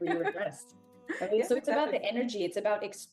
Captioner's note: laughs